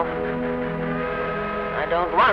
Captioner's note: horn whistle